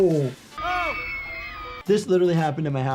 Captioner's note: crowd screams